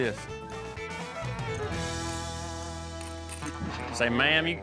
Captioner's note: spur spinning, clicking